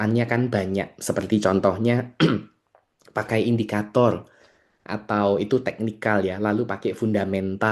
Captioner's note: berdehem